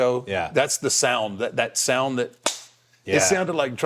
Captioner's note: claps